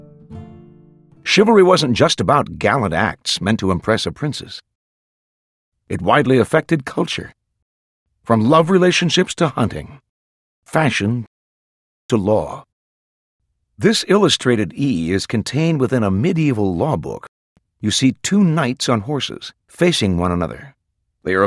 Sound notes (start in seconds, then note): 1.3 voiceover